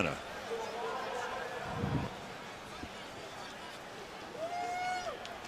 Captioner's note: pa announcement